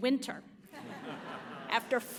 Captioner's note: audience laughs